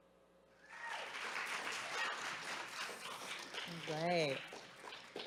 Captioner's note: crowd applause